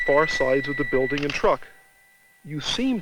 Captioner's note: camera shutter clicks